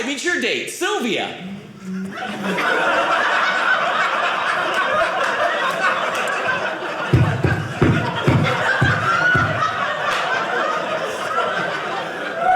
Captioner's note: audience laughing